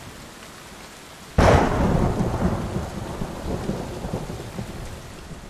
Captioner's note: thunder rumbling